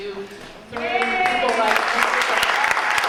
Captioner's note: interrupted by applause and cheers